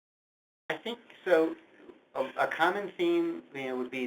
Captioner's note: voiceover